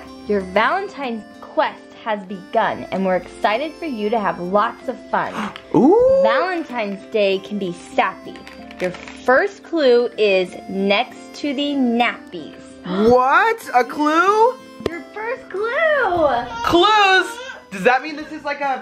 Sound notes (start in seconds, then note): 5.3 gasps